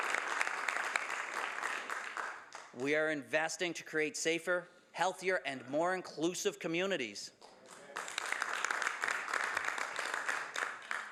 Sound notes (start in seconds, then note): 2.0 some Applause